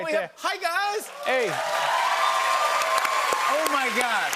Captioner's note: cheers and applause